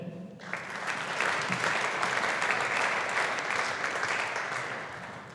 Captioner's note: audience applauding